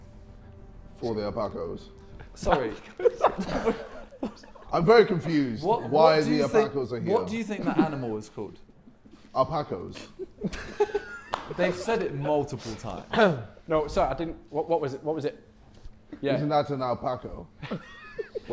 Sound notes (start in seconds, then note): 2.2 Sidemen laughing; 9.8 Sidemen laughing; 17.6 Sidemen laughing